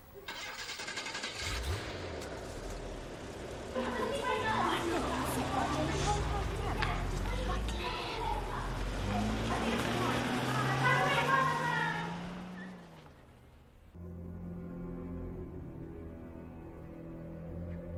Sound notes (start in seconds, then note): 0.3 car engine starting; 3.7 girls chatting; 3.8 car engines humming; 13.9 foreboding music playing